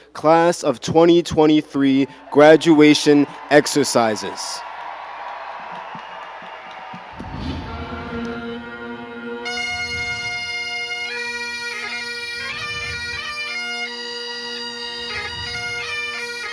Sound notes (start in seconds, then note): 5.2 crowd cheering; 8.1 gentle music